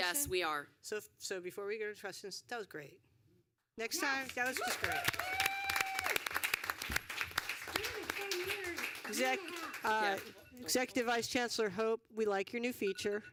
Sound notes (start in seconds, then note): 9.2 applause